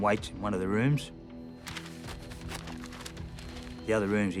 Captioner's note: paper rustles